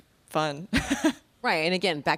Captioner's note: laughing